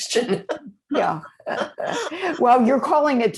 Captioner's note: both laughing